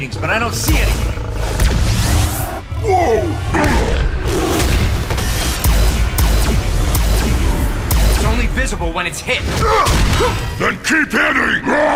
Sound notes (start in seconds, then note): 4.5 zapping; 9.6 grunts